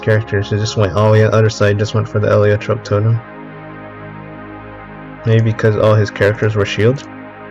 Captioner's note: distorsion